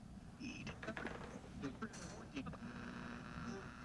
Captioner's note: radio buzzing